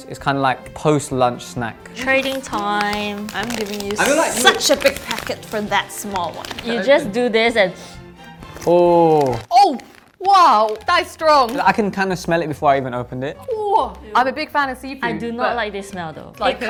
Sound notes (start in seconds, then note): 1.8 bag crinkles; 8.0 sniffs